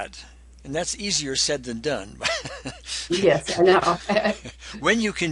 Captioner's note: laughs